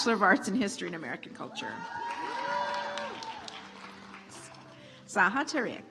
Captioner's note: audience applauds